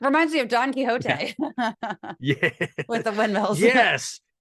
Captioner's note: laugh